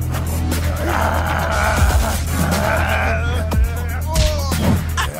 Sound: man grunting

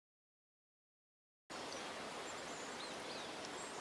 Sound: water rippling in the distance

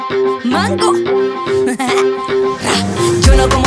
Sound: laugh

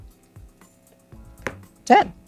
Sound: card slaps

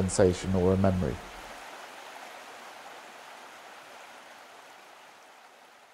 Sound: river flowing

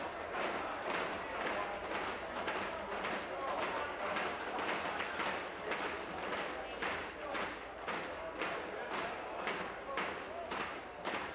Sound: tapping on desks

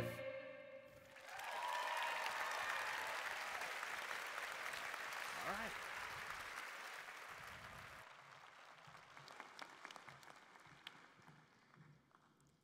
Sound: cheering and Applause

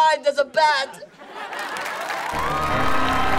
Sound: crowd cheering

